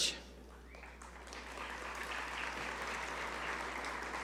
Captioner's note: audience applaud